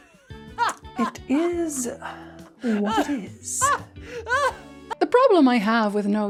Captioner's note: maintains insane cackle